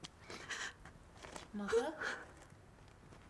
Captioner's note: sobbing